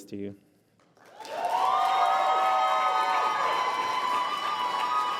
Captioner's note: applause